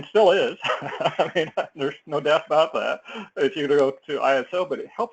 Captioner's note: laugh